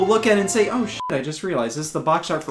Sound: beep

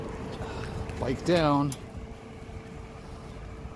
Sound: sigh

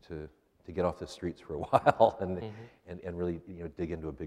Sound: laughs

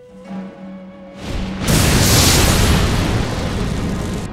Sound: explodes

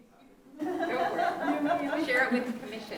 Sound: laughing

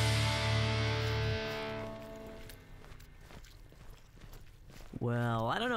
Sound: song ends; pained wet footsteps

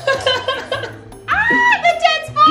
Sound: laughs

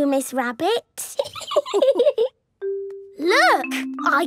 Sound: laughing

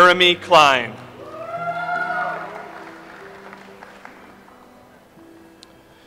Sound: audience applauds

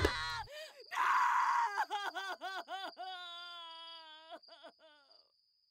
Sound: Bathsheba sobbing

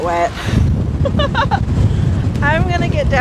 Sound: laughs

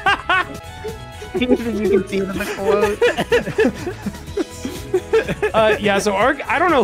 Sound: laughs; laughter

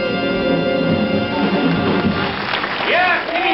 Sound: audience applauds

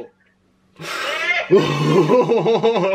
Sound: tense laughing; breathes a sigh of relief

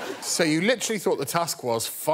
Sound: laughter

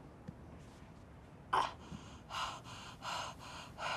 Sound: gasps, catching breath

